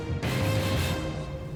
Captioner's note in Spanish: Golpes